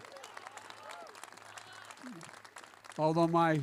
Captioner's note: applause